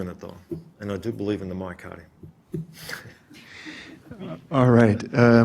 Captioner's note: chuckles